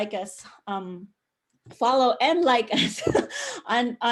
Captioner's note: chuckle